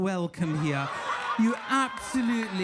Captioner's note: audience laughing